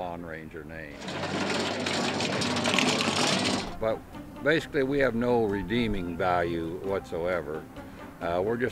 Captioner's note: sound of lawn mower on pavement